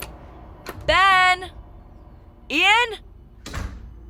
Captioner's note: shouts; door shuts